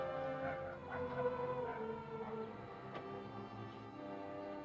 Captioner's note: dog barks faintly